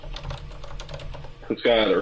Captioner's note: keyboard keys clanking